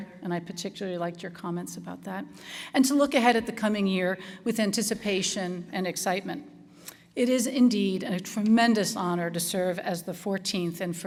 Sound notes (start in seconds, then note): none